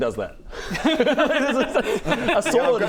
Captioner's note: technically correct giggles